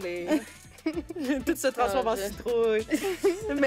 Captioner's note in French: rires